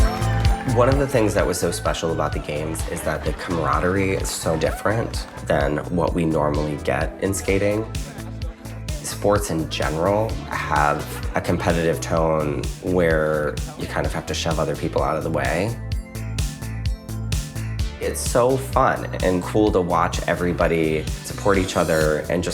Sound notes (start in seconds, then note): 0.0 bouncy pop music; 0.0 participant faintly speaking; 7.1 skaters chattering; 16.0 bouncy pop music